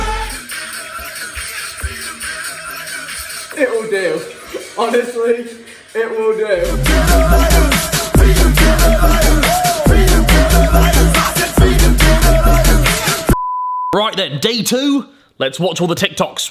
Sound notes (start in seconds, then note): 0.0 upbeat music; 13.3 beep